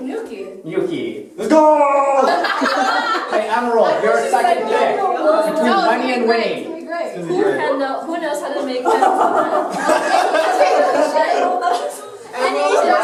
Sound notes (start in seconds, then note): 8.8 laughter